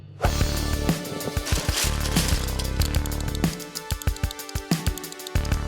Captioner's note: legos clicking into place